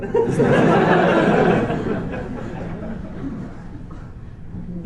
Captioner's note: laughter